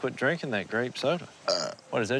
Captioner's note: burp